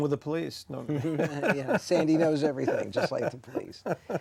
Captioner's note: both laughing